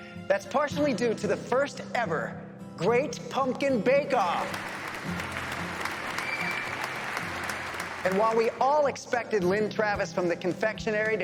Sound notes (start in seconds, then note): 4.1 audience clapping